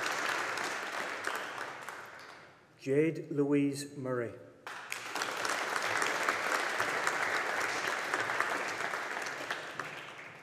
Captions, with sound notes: Jade Louise Murray. (AUDIENCE APPLAUDING)